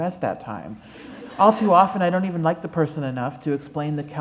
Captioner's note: laughter